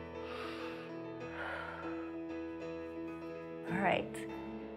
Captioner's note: inhales and exhales